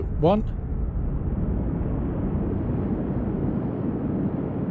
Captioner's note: wind blowing